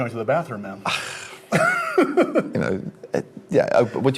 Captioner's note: laughs